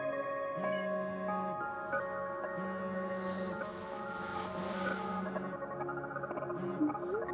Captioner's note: phone buzzing; tense dramatic music